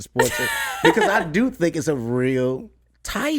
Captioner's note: laughs